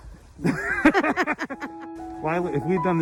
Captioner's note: both laughing